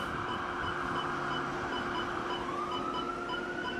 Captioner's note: monitor beeps